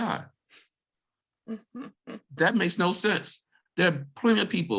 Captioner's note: laughs